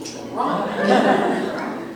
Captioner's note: audience Laughing